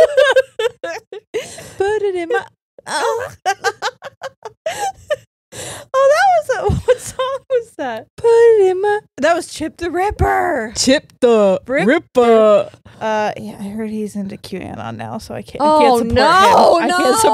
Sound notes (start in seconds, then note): 0.0 both laughing; 3.0 sings incoherently; 4.8 both laughing